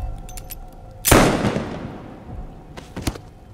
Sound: gunshot

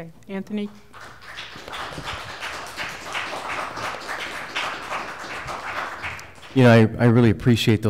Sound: applause

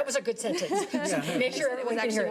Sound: laughing

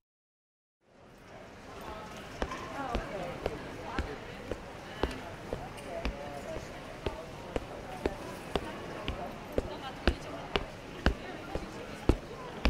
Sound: conversations and foot steps in the background

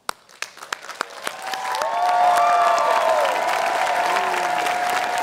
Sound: audience cheers and applauds

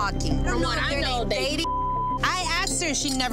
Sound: beep

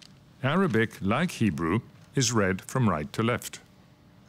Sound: speaks French

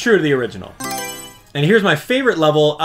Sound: Mario Selection Sound

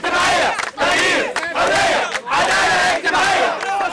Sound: chants

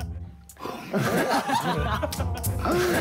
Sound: laughing

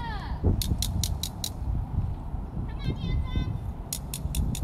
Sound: clicking

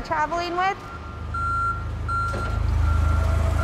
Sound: beeping

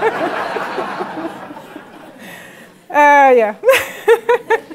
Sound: laugh; laugh

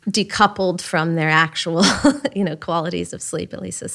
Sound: laughs

